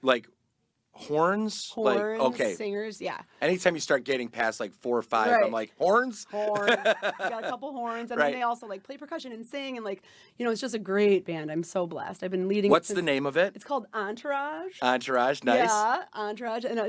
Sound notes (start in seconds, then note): 6.4 laughing